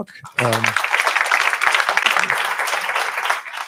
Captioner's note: applause